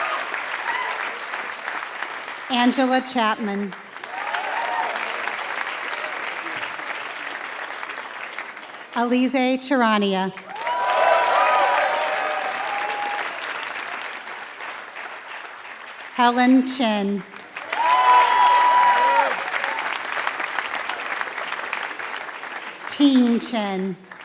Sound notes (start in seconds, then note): 0.0 applause; 3.1 applause; 9.7 applause; 19.0 applause